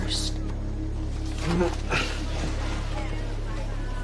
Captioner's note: grunts